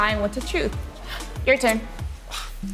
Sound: gasps; sighs

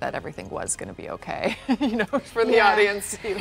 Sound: laughs

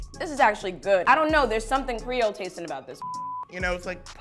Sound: beep

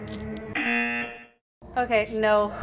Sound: buzzer rings

